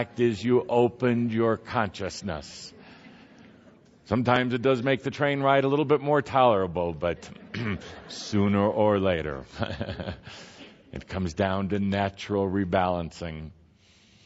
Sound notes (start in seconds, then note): 9.4 laughter; 9.5 chuckles